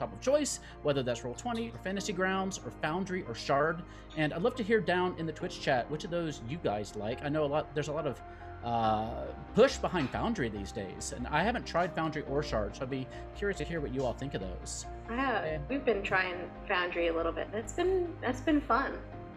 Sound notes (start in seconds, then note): none